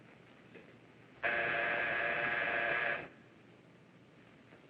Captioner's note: buzzing